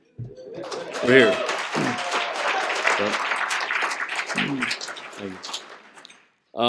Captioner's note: applause